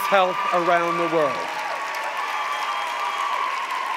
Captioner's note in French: Acclamations et applaudissements